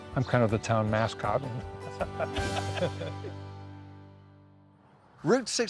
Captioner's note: laugh